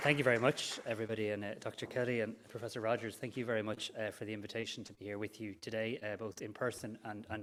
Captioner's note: applause